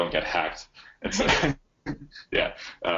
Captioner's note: chuckles